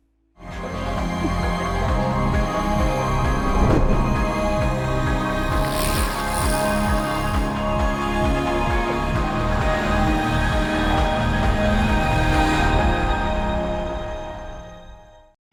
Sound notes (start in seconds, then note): 0.1 uplifting music; 5.5 bicycles wheels clicking; 9.1 plane whooshing; 12.3 uplifting music continues